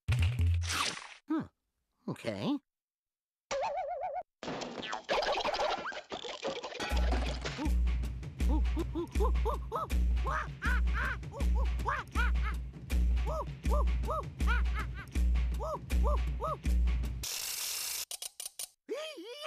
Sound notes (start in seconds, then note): 8.4 gibbering